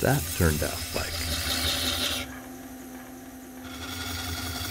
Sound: wood scraping

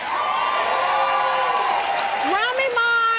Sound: audience cheers

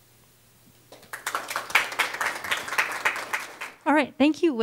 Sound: applause

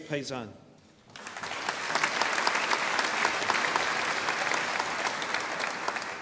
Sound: audience applauding

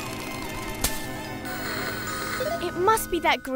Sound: dramatic music; static buzzes

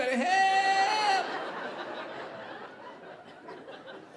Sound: audience laughing

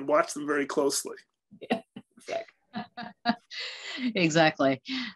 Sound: laughs

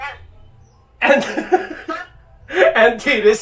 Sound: laughing

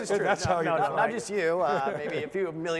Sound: laughing

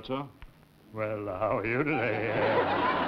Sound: mockingly deep voice

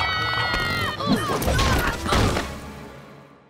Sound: screaming; grunting

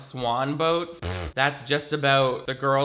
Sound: blows lips

